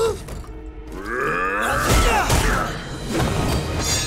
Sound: grunting

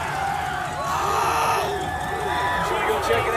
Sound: crowd cheering

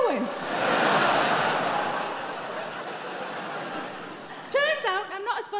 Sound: audience laughing

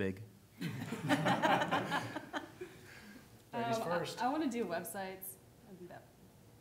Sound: laughter

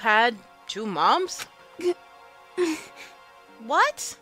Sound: gasp

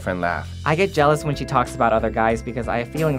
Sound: voiceover

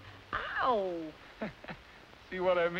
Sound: chuckles

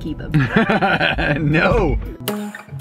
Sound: laughs

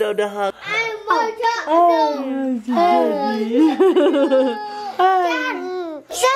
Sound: kids exclaiming; laughs

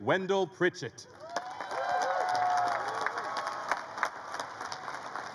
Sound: crowd cheers and claps

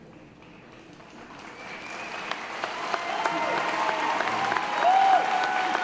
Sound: audience applauding

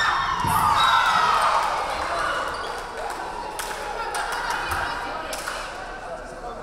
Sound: crowd cheering; referee whistling

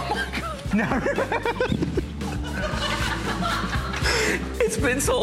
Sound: laughter

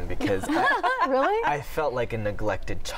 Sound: laughter

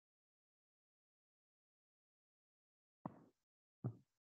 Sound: silence

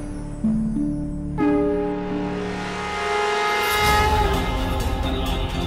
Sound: conch blows

